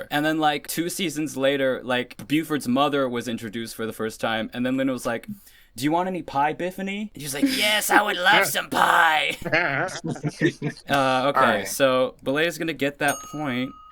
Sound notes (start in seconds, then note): 9.2 laughter